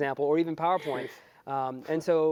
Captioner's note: laugh